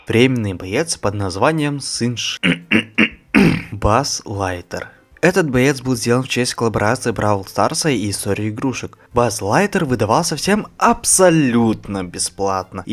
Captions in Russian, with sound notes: временный боец под названием Сын шл... (кашель) Базз Лайтер Этот боец был сделан в честь коллаборации бравл старса и истории игрушек Базз Лайтер выдавался всем абсолютно бесплатно